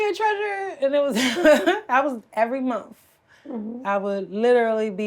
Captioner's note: laughs